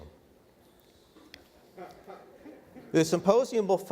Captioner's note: audience members laughing